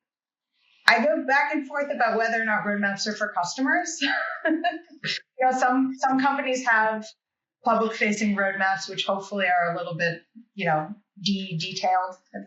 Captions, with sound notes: I go back and forth about whether or not roadmaps are for customers. (laughs) Some companies have public-facing roadmaps, which hopefully are a little bit de-detailed,